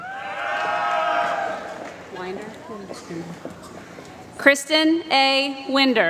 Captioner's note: applause